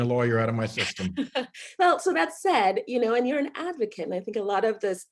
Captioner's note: laughs